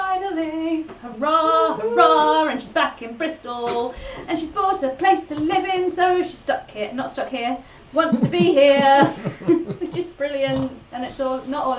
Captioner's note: laughs